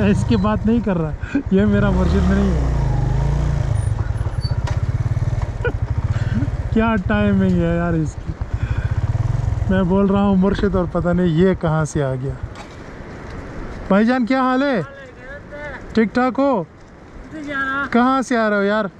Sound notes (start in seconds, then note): 5.5 laughing out loud